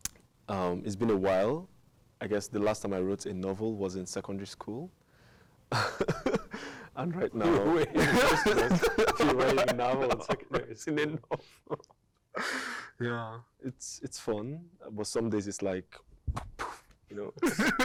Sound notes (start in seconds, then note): 5.7 laughing; 7.5 both laugh